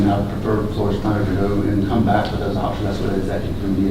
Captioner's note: speaker garbling